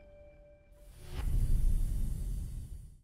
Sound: transition whooshing

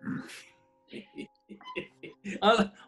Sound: sniggers; chuckling

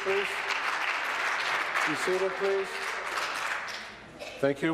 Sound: applause

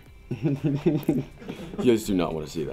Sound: producer laughing

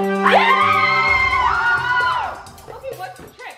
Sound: victory music; cheering

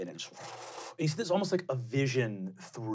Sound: blowing

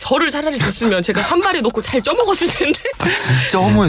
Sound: laughs

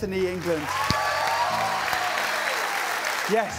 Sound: cheers and applause

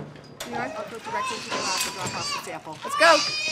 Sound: baby crying

